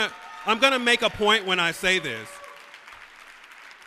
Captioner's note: applause